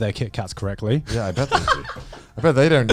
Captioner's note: laughs